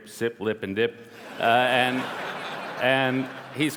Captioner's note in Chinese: 笑聲